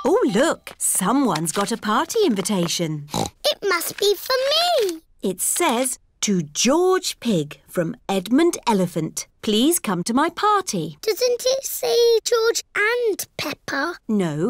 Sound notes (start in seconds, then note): 3.0 snorts